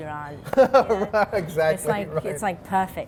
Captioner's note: laughs